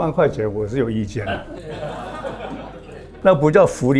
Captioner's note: laughs